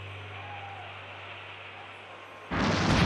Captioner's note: crowd cheering; explosion